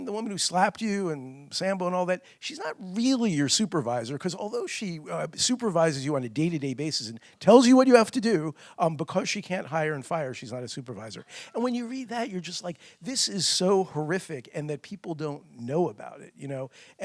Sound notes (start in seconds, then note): none